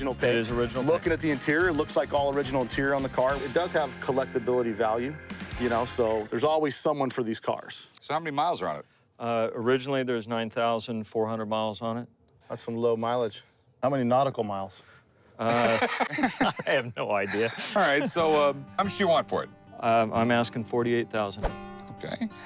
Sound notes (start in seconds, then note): 15.4 laughter